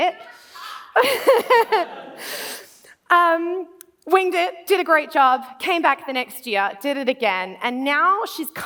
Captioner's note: laughs